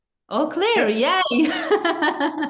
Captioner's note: laughs